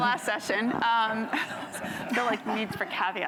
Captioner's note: laughter